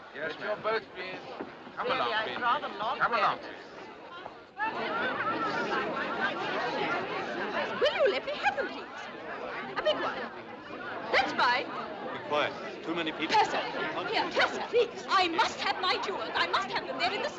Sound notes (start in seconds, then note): 4.5 Conversando, gritando